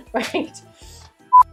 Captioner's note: claps